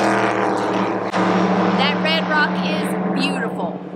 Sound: car passing

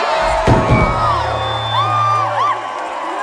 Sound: crowd cheering; microphone thuds

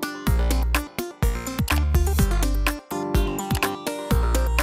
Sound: mouse clicks

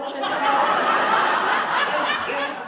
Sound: audience laughing

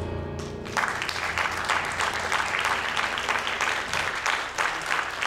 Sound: audience applauding

